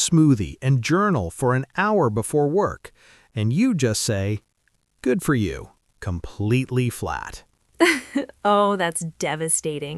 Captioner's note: completely flat tone; laughs